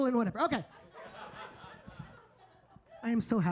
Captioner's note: audience laughing